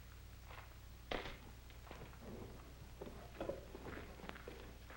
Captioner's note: rock clacks